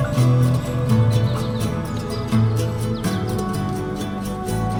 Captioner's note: birds chirping